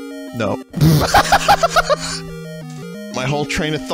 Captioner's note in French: éclate de rire